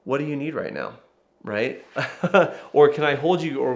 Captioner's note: laughs